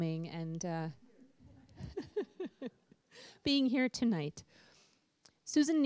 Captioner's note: laughter